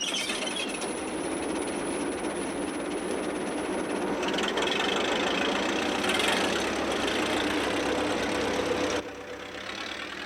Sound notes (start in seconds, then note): 0.9 engine rumbling